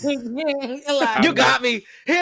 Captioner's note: laughter